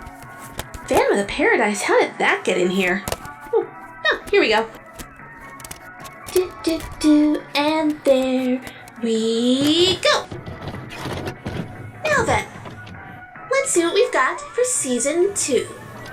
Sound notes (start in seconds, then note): 10.6 VHS Tape Loading